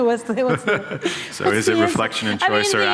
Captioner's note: laughter